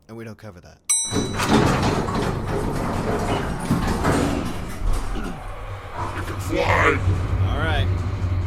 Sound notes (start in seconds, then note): 0.9 elevator chimes, doors close